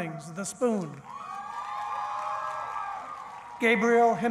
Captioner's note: cheering